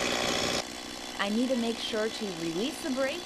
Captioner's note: motor starting up and running